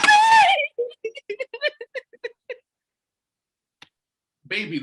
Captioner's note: cries